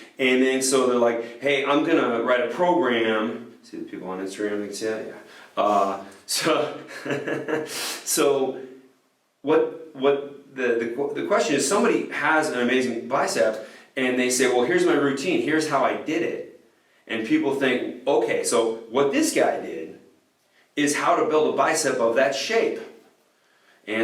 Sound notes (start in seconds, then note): 6.4 laughs